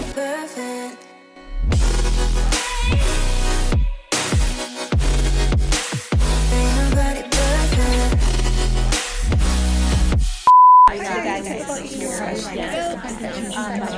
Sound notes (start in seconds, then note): 10.4 beep; 10.9 chattering